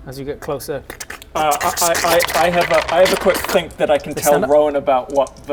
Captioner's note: krrshk-krkrckskckskhk-krskchkk